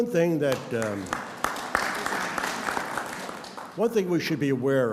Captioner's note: audience applauds